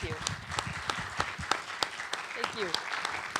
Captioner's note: applause